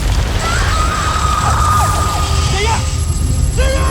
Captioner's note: ice shatters; shrieks